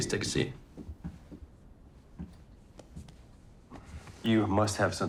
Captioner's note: footsteps clicking